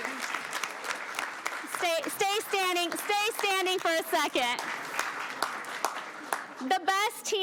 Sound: applause

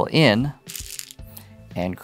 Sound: stones rattling

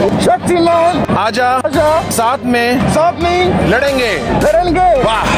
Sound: non-english speech

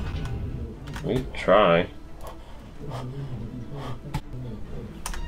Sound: heavy breathing

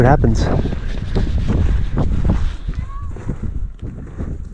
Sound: wind howling

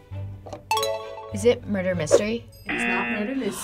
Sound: klaxon sounds

